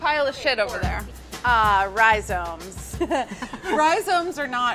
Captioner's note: laughing